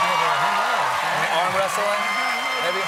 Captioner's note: cheers and applause